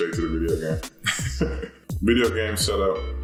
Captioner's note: laughing